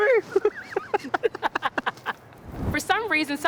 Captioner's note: both laughing